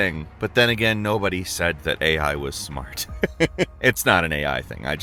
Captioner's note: laughs